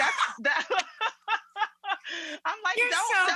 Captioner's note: both laugh